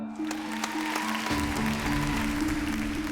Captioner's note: applause